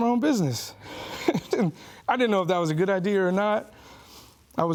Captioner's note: chuckles